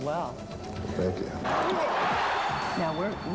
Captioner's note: cheering